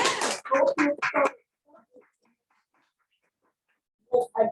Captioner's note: clapping